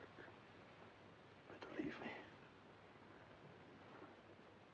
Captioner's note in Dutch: zachtjes